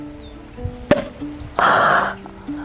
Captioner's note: cork pops